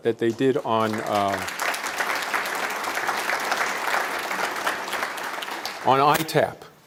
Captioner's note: applause